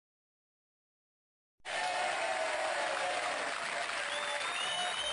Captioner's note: DCMC fans cheering sound effect